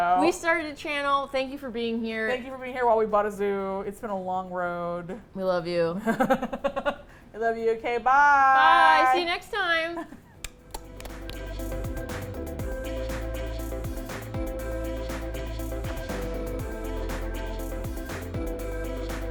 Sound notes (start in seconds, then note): 6.0 laughs; 10.3 smooches; 10.5 outro Music